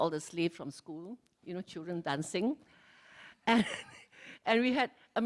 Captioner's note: laughs